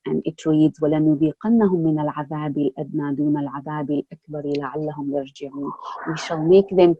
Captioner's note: recites 32:21 in Arabic